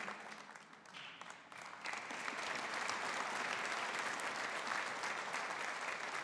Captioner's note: audience applauding